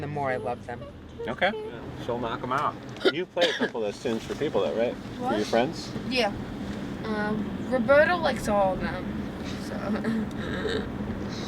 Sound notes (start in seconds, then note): 3.0 coughs; 9.8 laughs